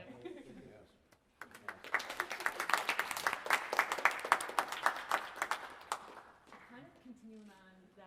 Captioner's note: applause